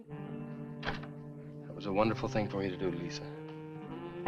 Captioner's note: door thuds